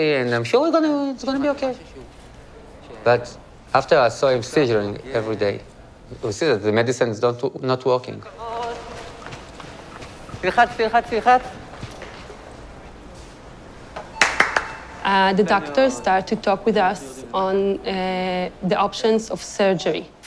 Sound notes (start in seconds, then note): 10.2 indistinct chatter; 14.1 clapping